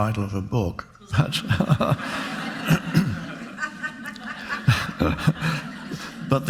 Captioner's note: Eckhart and audience laughing